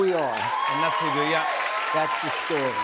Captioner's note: cheers and applause